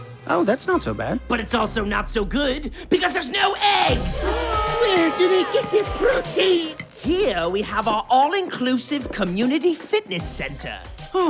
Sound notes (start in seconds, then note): 4.1 yelling